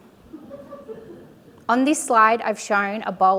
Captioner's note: audience laughing